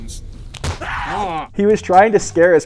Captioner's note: effect screams